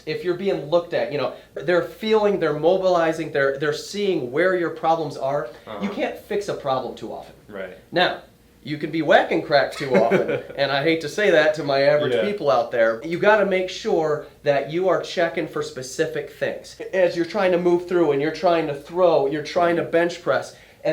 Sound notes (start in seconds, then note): 9.8 laughs loudly